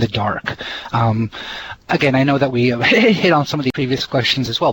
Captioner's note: heh heh